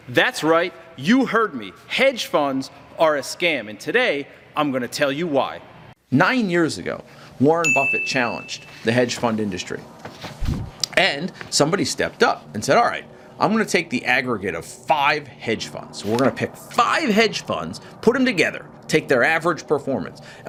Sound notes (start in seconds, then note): 7.6 bell dings